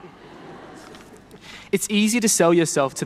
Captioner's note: people laughing